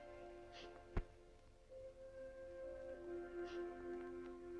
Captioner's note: sniffling